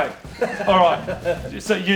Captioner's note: laughing